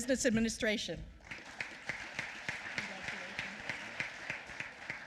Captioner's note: applause